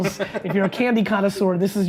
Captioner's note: laughing